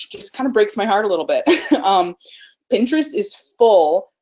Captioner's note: laughs